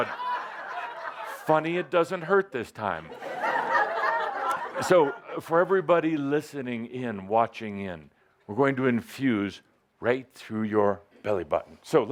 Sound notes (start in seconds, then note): 3.1 more laughter